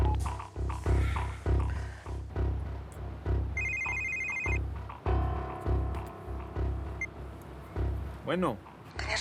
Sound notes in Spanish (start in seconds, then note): 0.6 sonido al marcar; 3.5 suena un celular